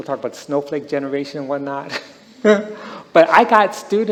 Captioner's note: he laughs